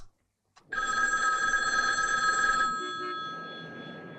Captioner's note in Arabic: يرن الهاتف